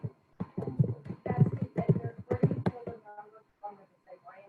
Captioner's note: speaking faintly